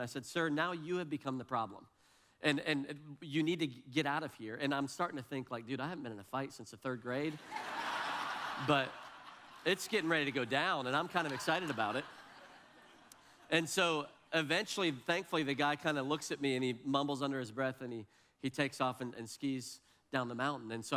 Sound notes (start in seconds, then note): 7.3 audience laughs